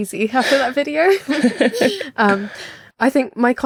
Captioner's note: both laughing